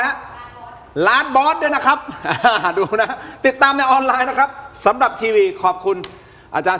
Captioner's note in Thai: เสียงหัวเราะ